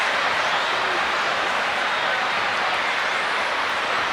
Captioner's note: crowd vocalizing